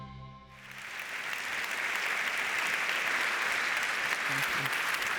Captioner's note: audience applauds